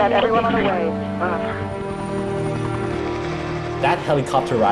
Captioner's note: whirring